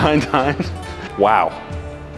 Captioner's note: laughs